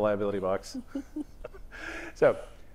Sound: chuckles

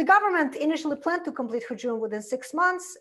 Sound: foreign language

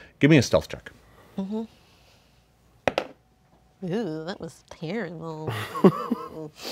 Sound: dice clatters

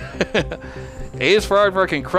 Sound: laughs

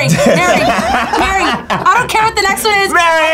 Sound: group laughs

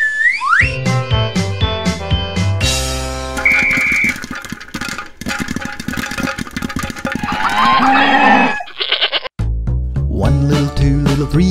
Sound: barn animal sounds

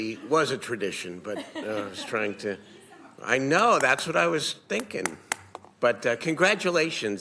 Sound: laughter

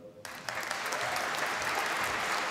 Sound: applause

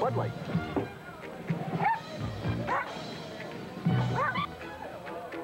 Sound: dogs bark as they jump

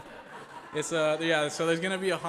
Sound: group laughs

